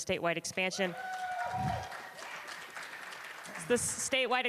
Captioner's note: cheers and applause